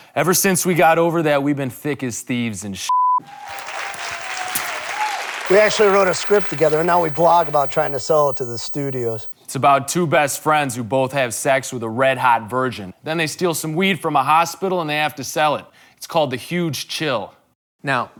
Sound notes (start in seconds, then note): 3.2 audience applauds